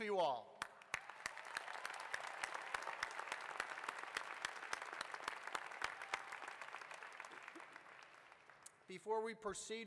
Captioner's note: applause